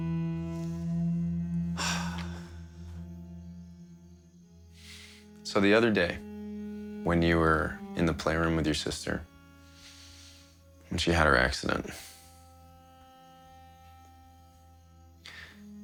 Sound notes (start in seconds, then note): 1.6 sighs